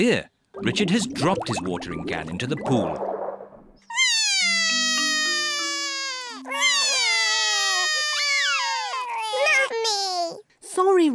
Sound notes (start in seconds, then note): 3.9 both crying